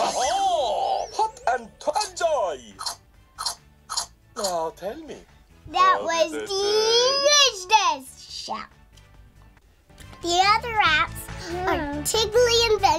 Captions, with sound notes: Oh, Hot and Toasty.... Enjoy! (Eating noises) Now tell me... That was delicious, Chef! The other apps are Tiggly Adventure